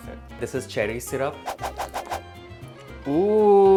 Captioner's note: whoosh sounds